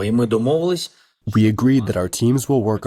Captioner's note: through translator